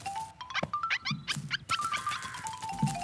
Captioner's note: bunnies Squeaking